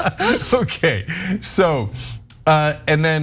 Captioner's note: laugh